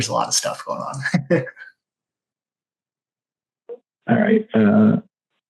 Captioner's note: laughing